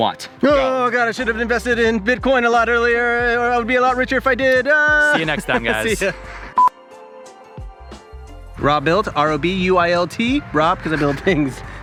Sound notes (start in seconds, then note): 6.6 marker beep; 11.6 laughing